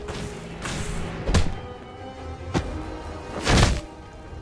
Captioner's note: intense ambient music; loud thump; loud thumping